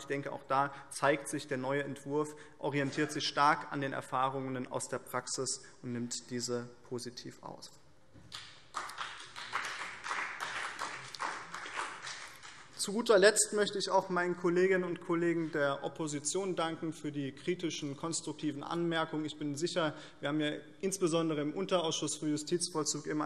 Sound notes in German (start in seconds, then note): 8.3 Beifall BÜNDNIS 90/DIE GRÜNEN und vereinzelt CDU